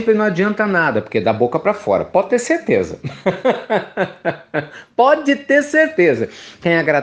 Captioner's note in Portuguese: Risos